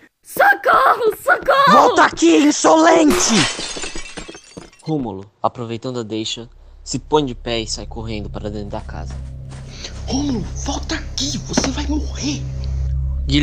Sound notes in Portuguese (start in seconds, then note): 4.0 Passos de corrida